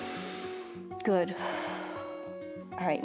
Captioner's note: inhales; exhales